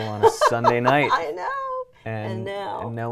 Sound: laughs

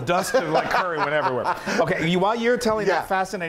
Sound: laugh

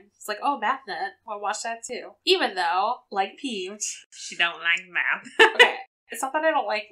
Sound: laughs

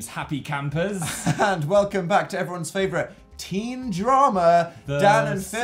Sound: laughs

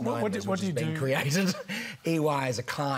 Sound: laughs

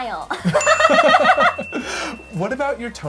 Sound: laughing

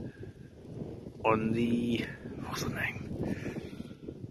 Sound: whispering

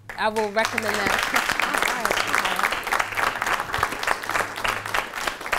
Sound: applause

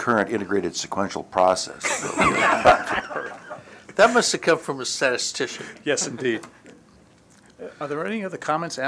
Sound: laughter

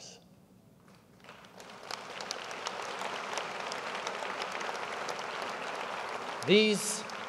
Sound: applause

